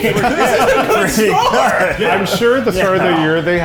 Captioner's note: all laugh